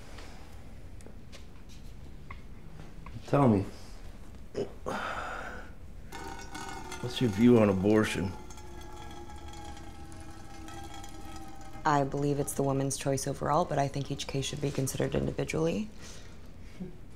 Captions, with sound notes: Tell me, what's your view on abortion? (urine tinkling) I believe it's the woman's choice overall, but I think each case should be considered individually.